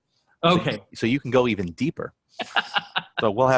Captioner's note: chuckles